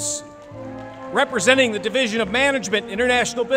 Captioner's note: applause